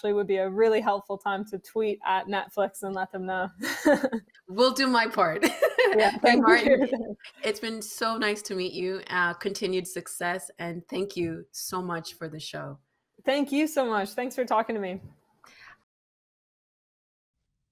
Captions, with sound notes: then now would actually be a really helpful time to tweet at Netflix and let them know. (Laughing) Will do my part. Yeah. Mae Martin. It's been so nice to meet you. Continued success and thank you so much for the show. Thank you so much. Thanks for talking to me.